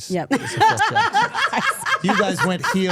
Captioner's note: Steph laughing